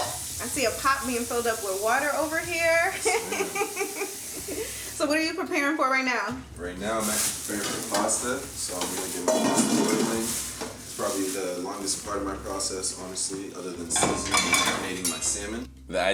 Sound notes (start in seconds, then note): 2.9 Angela giggling